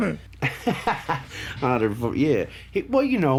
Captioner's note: laughs